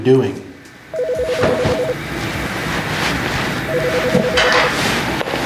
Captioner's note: phone ringing